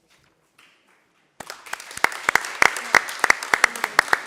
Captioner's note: applauding